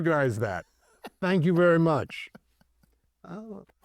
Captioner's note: laughs